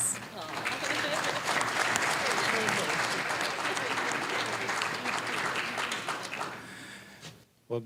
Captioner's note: applause